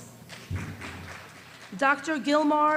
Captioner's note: small applause